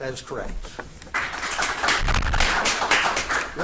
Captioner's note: audience claps